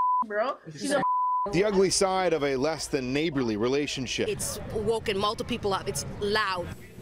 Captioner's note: beep; beep